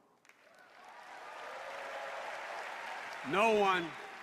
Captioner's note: applause